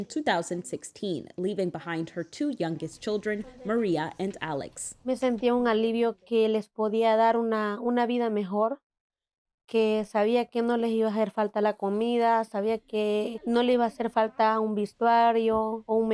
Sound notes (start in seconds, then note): 4.4 speaking Spanish